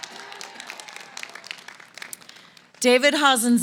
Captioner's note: applause